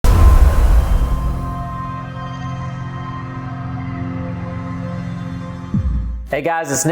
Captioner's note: sound effect